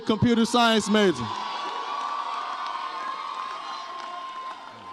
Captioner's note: audience cheers